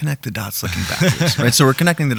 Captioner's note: laughing